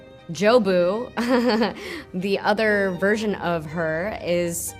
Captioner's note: chuckles softly